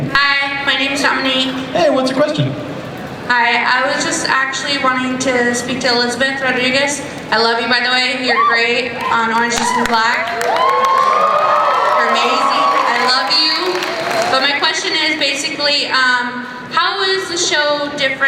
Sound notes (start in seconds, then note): 0.2 voiceover; 3.5 voiceover; 10.5 cheering